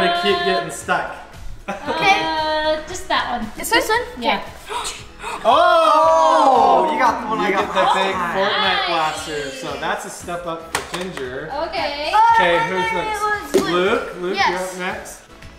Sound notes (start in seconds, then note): 4.6 gasping